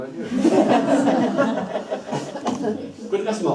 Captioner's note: group laughing